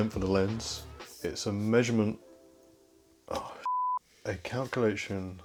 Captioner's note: beep